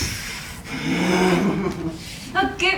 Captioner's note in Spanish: Gruñidos